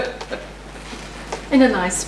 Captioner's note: laughs